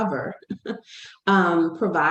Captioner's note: laughs